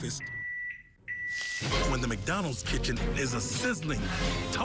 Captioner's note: microwave beeps